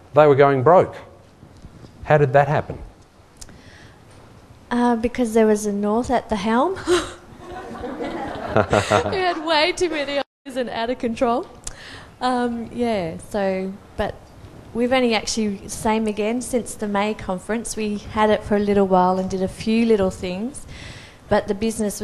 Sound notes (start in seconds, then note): 7.4 laughter; 7.4 laughs